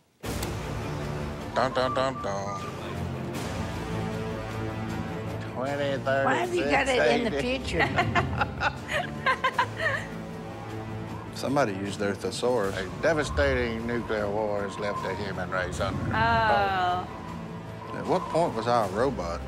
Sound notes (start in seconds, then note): 0.1 humming along; 7.6 laughing; 12.7 wind blowing